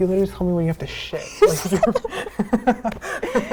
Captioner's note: laughing